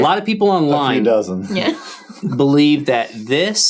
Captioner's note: chuckling